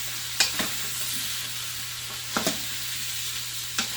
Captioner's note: oil sizzling